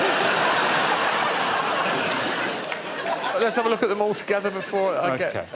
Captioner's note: laughter